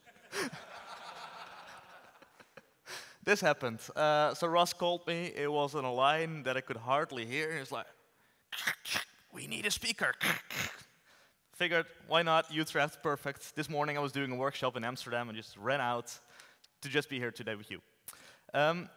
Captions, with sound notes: This happened. So Ross called me, it was on a line that I could hardly hear: He was like, "[distortion] We need a speaker! [distortion]" Figured why not, Utrecht, perfect. This morning I was doing a workshop in Amsterdam, I just ran out to just be here today with you.